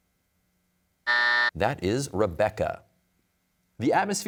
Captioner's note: buzzer sounds